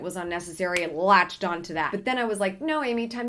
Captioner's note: snaps fingers